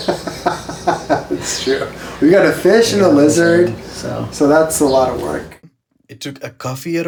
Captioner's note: laughs